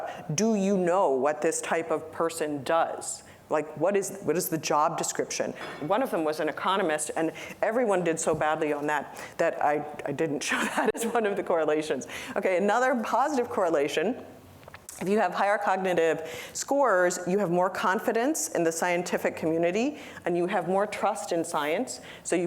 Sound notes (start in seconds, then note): 10.5 laughter